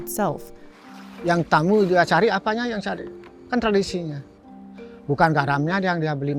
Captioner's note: speaks in a foreign language